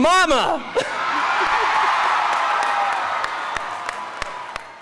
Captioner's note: audience cheering